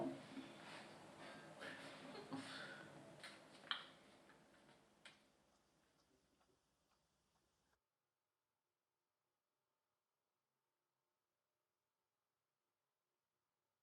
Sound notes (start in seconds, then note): 2.0 chuckles